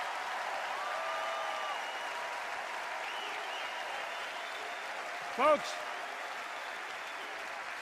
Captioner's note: applause